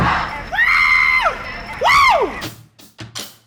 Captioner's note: drums banging; yelling; light music